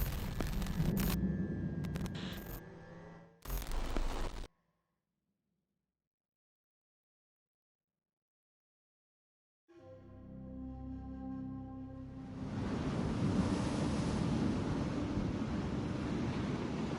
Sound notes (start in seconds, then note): 0.1 static hissing; 9.8 dramatic music; 12.3 waves crashing